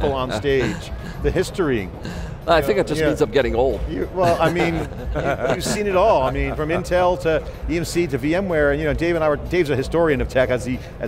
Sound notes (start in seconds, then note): 0.0 laughs; 4.2 laughs